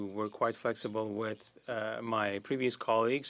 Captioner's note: speaking French